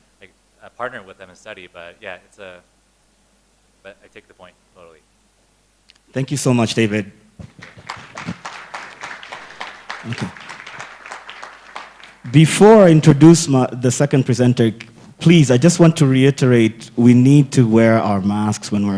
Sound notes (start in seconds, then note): 7.4 applause